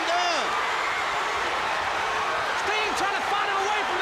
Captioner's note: crowd cheering